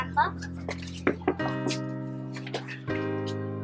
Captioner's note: knocking